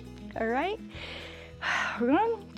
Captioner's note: exhales